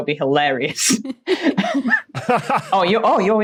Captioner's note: group laughing